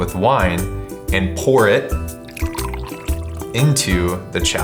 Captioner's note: wine pours